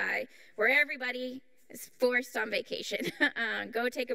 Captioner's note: chuckles